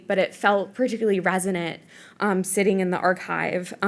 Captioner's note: none